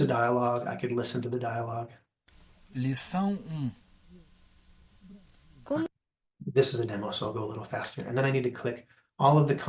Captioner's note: recorded voice